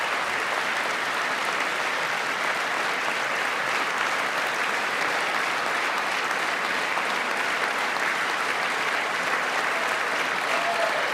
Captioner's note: applause